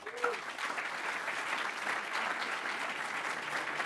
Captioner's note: audience clapping